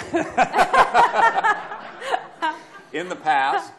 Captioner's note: laughter